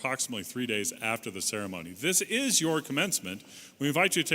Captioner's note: none